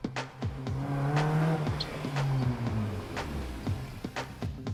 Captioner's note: car revs up loudly